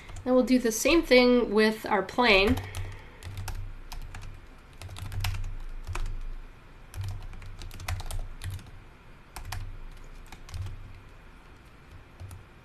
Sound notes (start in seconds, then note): 3.8 keyboard typing